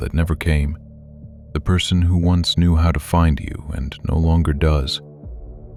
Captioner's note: quietly reassuring